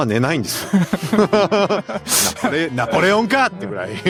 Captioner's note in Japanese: 笑い